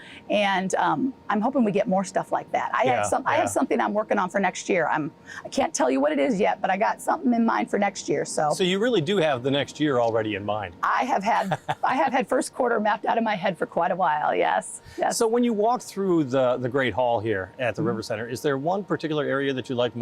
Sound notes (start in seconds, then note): 11.3 laughing